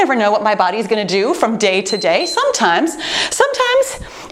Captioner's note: timer beeps